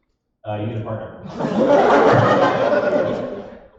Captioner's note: laughter